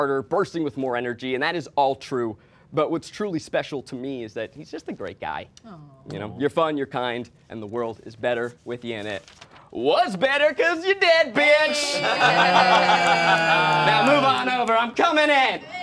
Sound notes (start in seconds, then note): 11.4 all exclaiming